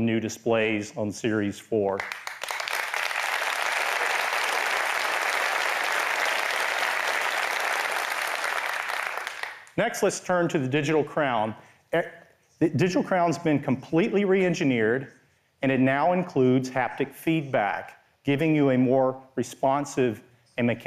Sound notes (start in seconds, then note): 2.0 applause